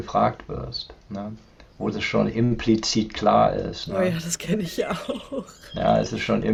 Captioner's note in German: gelächter